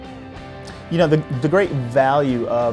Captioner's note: voiceover